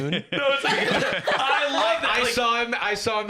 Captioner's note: laughs